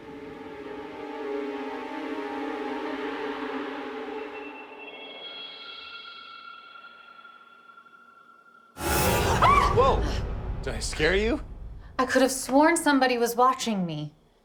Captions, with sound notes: (suspenseful music) (screams) - Whoa, did I scare you? - I could've sworn somebody was watching me.